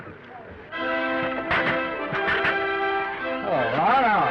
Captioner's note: Danny laughs; orchestral music; chair clattering